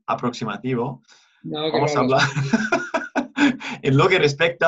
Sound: laughter

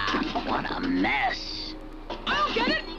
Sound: chest clanks

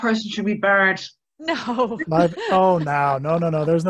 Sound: laughs

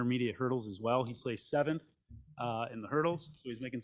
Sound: medals clinking

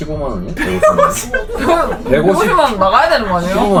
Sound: laughter gibberish

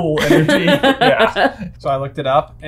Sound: laughing

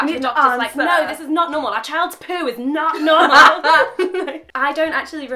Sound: both laugh

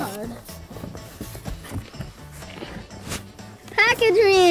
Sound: shuffling in boxes

